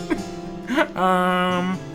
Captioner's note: laughing